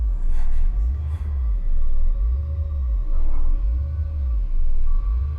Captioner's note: ghostly voice whispering